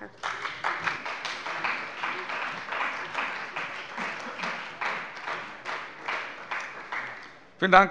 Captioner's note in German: Beifall bei der CDU und dem BÜNDNIS 90/DIE GRÜNEN